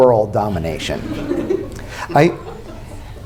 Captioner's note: laughter